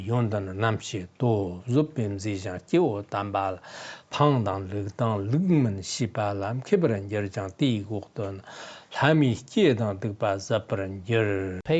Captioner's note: giving oral transmission in Tibetan